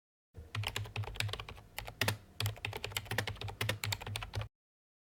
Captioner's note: typing